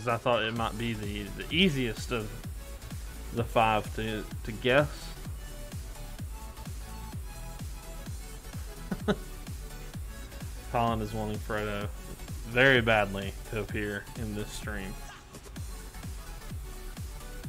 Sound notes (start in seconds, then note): 8.7 chuckles